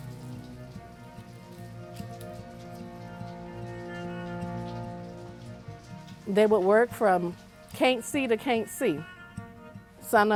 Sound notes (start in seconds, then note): 4.8 lively music; 4.8 rain pattering